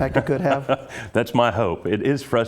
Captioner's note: laugh